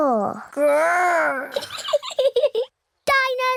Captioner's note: giggles